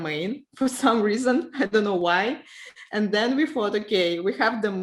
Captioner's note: laughs